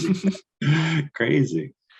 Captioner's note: laughing